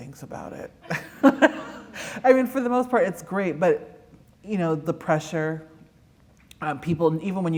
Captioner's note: laughter